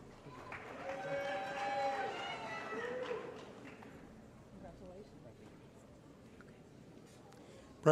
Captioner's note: applause & Cheering